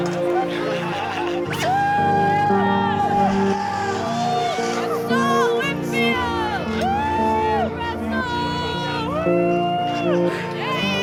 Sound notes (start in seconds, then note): 0.0 cheering